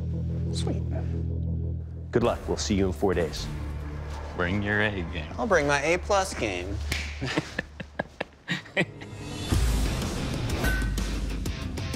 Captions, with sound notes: Sweet. Good luck. We'll see you in four days. Bring your A game. I'll bring my A-plus game. [laughs] [rock music]